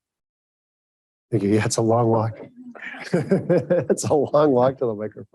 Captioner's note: laughs